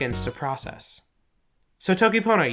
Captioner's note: pause